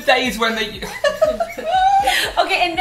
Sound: laughter

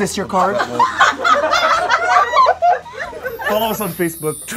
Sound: audience laughs

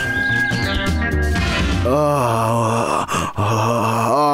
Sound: loud snoring

